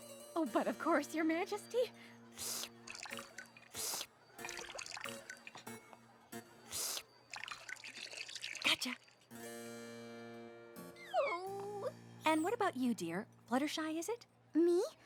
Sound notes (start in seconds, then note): 2.4 slurps; 6.6 slurps